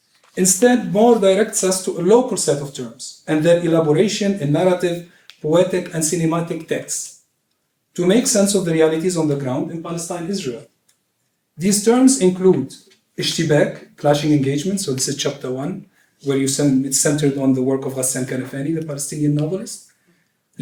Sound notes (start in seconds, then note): 12.7 non-english speech